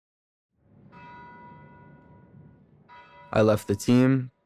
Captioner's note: bell tolls